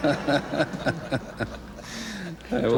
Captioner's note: laughter